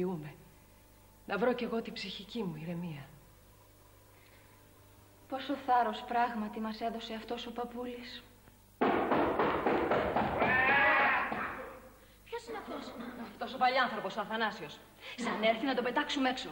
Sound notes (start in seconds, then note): 8.8 knocking